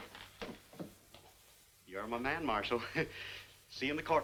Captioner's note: chuckles